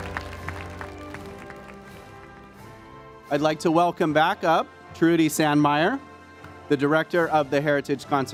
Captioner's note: applause